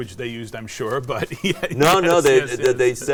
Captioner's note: laughs